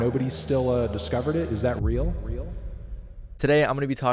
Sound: voice echoes

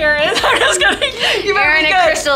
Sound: laughs

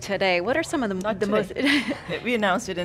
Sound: laughing

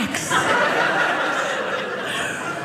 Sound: audience laughing

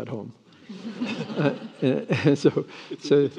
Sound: attendees laughing

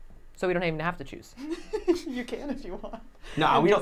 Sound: giggling

